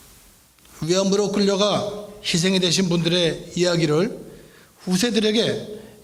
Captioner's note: speaking in foreign language